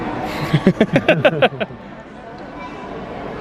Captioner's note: laughing